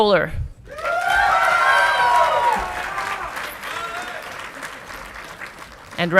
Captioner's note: audience clapping and cheering